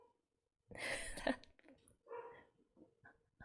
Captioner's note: laughs